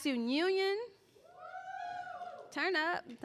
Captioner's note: cheering